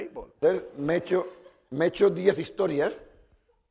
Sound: speaking spanish

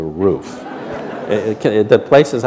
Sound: laughter

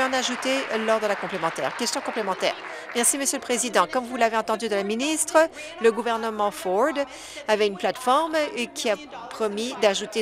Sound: applause

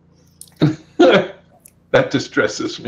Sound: laughs

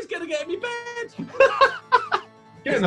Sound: laughing

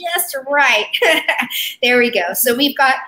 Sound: laughs

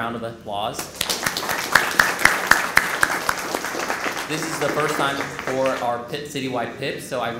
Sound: applause

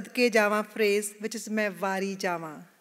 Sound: non-English phrase

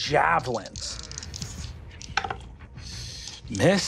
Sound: dice rolling

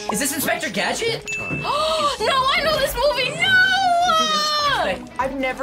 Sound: gasps

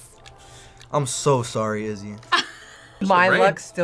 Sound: laughs

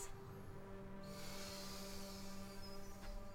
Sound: sighs

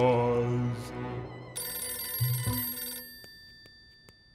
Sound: telephone rings

